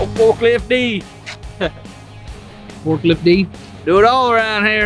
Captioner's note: laughs